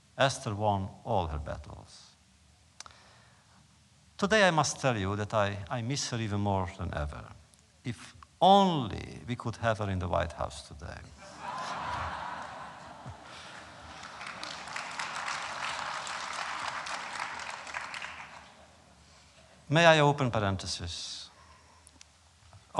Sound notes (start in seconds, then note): 11.1 applause; 11.2 laughter